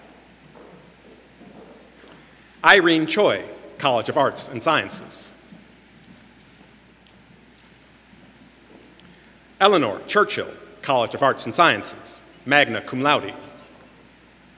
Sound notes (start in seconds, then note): none